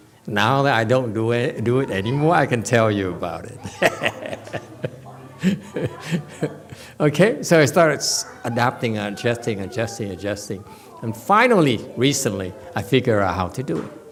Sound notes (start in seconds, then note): 3.4 laughs